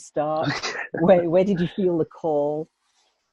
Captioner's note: laughs